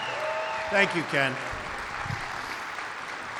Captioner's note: applause